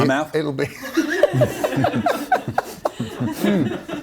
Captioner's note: laughs